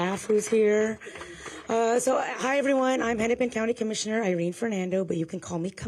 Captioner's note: applause